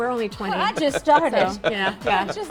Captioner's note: laughs